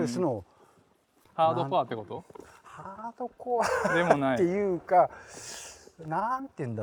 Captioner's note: laugh